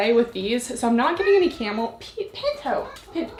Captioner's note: cat meows